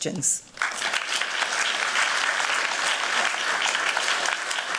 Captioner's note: applause